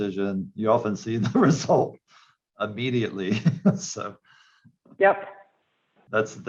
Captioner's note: laughs